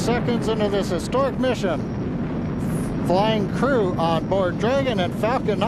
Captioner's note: engine Roaring